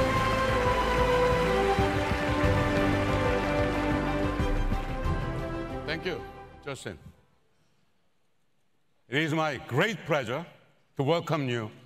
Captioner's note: applause